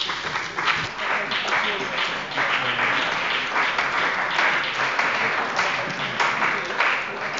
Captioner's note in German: Beifall bei dem BÜNDNIS 90/DIE GRÜNEN und der CDU